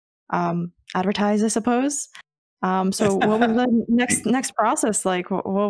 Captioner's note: laughing